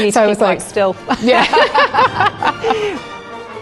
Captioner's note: both laugh; y ddau'n chwerthin